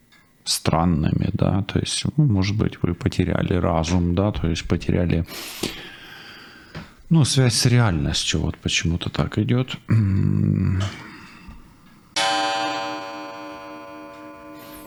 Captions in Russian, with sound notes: странными, да? То есть, ну, может быть, вы потеряли разум, да? То есть потеряли, [фыркает] [вздыхает][тяжело вздыхает] ну, связь с реальностью вот почему-то так идёт. Мм,